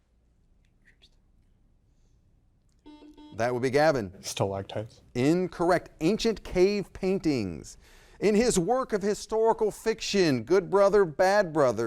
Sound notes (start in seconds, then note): 0.2 faintly speaking; 2.8 buzzer blaring